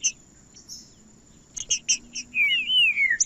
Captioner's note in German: trinca ferro cantando